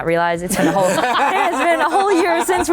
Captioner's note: laughter